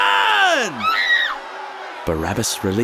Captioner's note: woman screaming